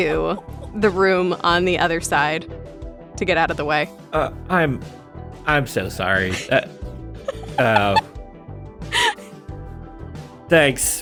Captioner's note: chuckles